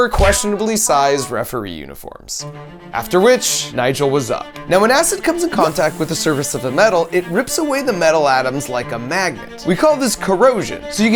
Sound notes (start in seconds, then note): 3.9 upbeat violin music; 4.7 metal sizzling